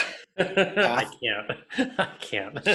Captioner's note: laughs